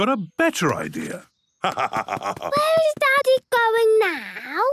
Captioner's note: laugh